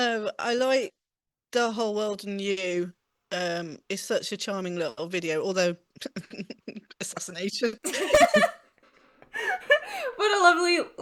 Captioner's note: laughs